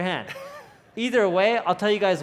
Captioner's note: laughs